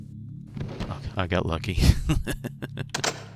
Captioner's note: laughs